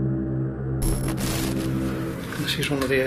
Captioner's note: static crackling